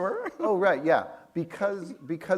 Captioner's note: laughter